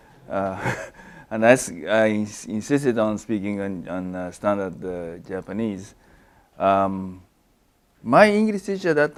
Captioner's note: laugh